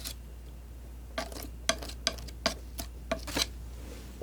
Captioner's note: scratching; scratching